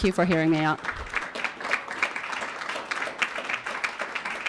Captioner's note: audience clapping